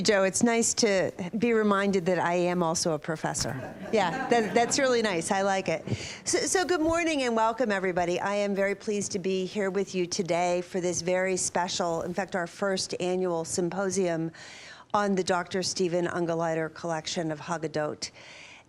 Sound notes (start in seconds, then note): 3.5 laughter